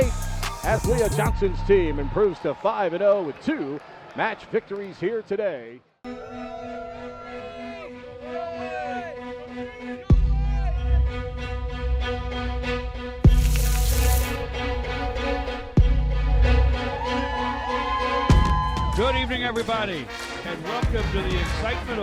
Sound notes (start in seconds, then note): 6.0 crowd cheering; 10.2 upbeat music playing; 13.3 hot dogs sizzling; 16.5 fans cheering